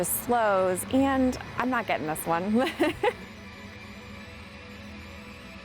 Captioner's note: laughing